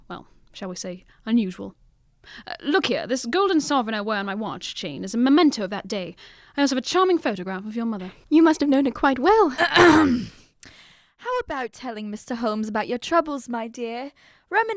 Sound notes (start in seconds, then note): 9.6 clears throat